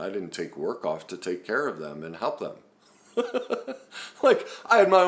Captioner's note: laughs